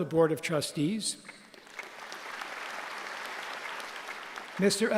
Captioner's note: applause